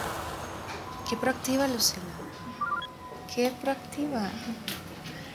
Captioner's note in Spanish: suena el celular